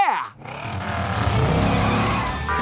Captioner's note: engine revving; beeping